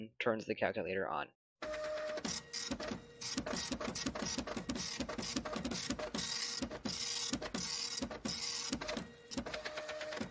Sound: printer noises

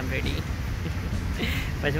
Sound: chuckles

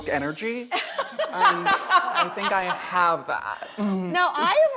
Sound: laughs

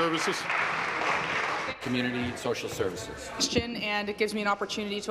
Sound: applause

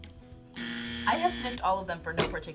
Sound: buzzer rings

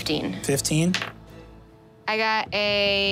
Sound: dice tapping table

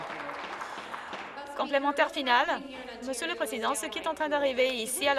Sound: some Applause

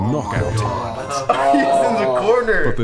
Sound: laughter

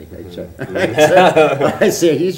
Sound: laughter

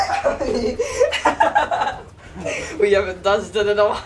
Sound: laughs

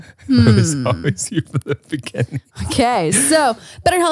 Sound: laughing

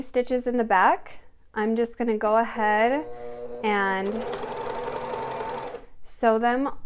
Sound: sewing machine whirring

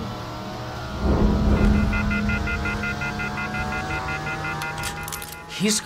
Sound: dial tone beeping

